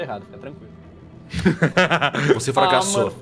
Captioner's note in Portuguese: risos